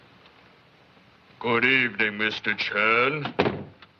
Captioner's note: deep Voice